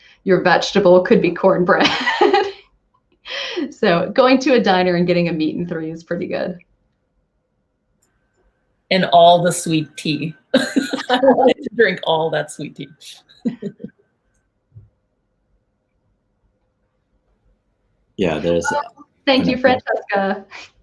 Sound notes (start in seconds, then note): 1.8 laughs; 10.5 laughing; 13.1 laughs